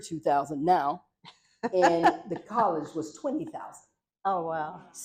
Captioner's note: laughter